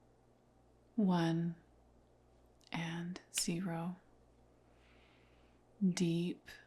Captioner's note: snaps fingers